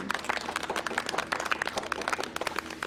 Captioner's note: clapping